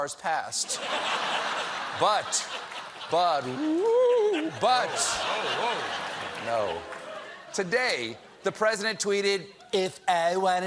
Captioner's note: laughter